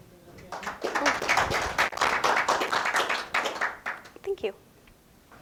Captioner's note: audience claps